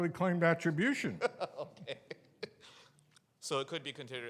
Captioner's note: laughs